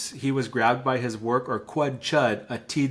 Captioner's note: speaking in Lushootseed language